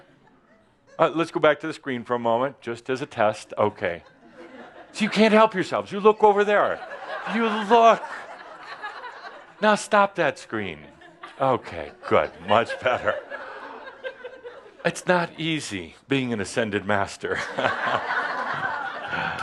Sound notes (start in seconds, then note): 6.0 laughter; 13.8 more giggles; 17.2 laughter